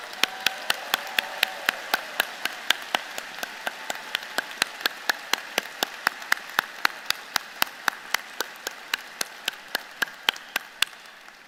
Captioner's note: applause